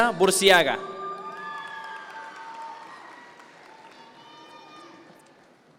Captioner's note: audience members cheer